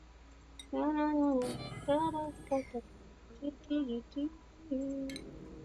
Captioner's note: humming